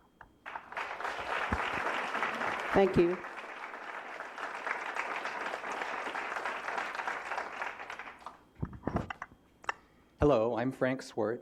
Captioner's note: applause